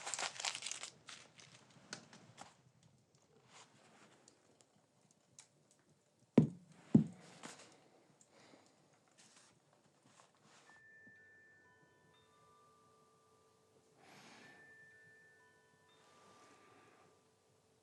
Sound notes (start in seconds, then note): 10.5 ringtone tinkling